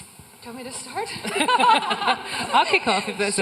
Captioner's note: everyone laughing